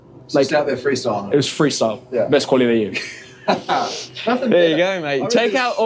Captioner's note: laughter